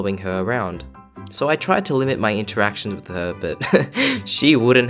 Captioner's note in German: Kichern